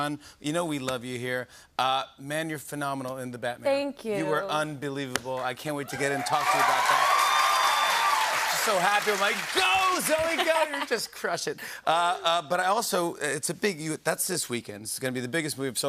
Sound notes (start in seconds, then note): 5.8 cheers and applause